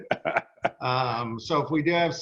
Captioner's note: soft chuckling